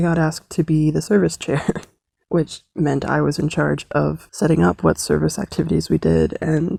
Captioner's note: chuckles